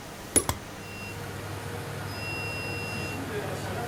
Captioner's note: beep